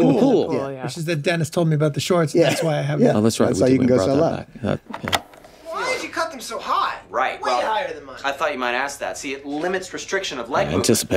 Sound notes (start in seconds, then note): 4.8 tape rolling